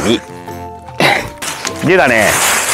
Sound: laughs

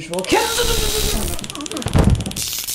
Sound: electric shocks

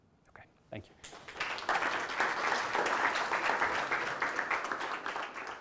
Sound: applause

